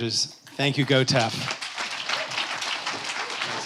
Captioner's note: applause